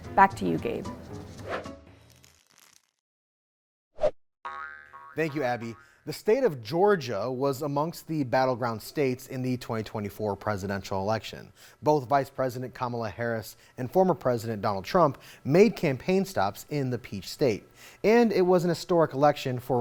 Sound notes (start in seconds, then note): 1.6 graphics whooshing; 4.4 graphics boinging